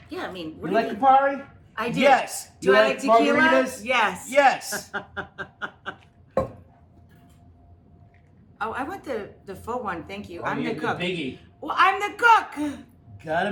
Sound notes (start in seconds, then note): 4.7 laughs